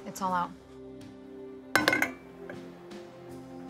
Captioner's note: clink